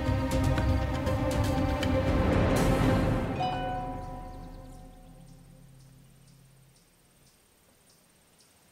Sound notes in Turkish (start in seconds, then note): 3.3 Mesaj sesi